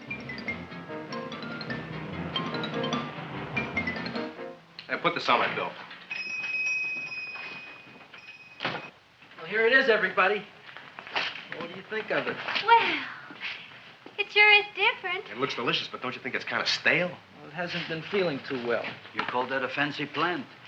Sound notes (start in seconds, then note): 0.0 upbeat music; 6.0 shop bell dings